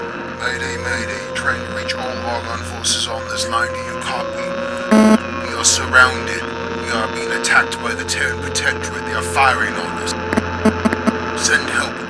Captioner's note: Static